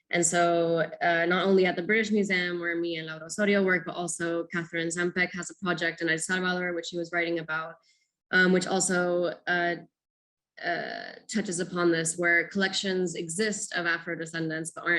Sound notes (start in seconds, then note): 2.7 speaking foreign language